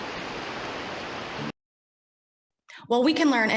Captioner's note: water rushing